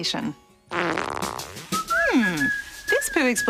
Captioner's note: farts